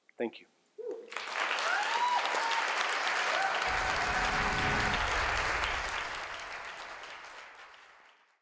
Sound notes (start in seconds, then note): 1.1 crowd cheering and clapping; 3.7 electric static